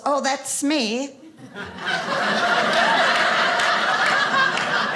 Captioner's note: audience laughing